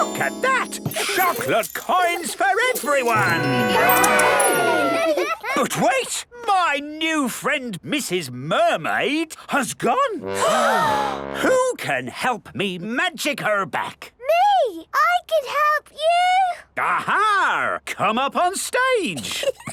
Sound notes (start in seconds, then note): 10.3 all gasp